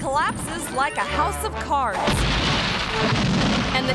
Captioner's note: concrete rumbling